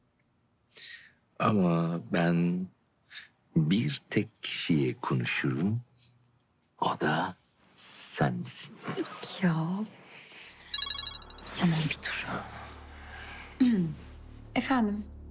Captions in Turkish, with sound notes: Ama ben... ...bir tek kişiye konuşurum... ...o da... ...sensin. Ya. (Telefon çalıyor.) Yaman bir dur. Efendim?